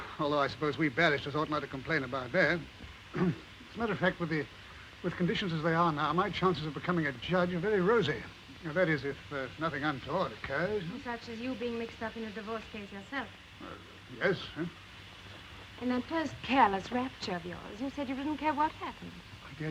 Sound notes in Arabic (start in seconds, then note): 3.1 يصفي حلقه